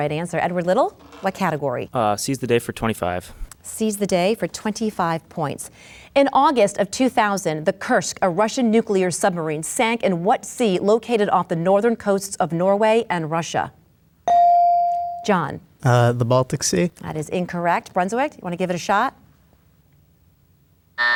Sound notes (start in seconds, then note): 14.3 bell dings